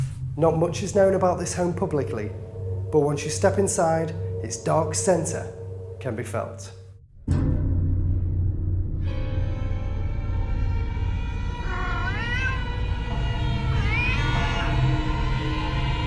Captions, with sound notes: Not much is known about this home publicly, but once you step inside, its dark centre can be felt. (eerie music) (cat mewing)